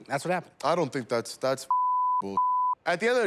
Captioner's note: beep